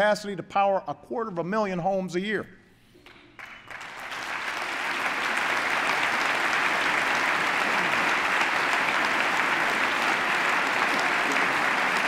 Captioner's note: applause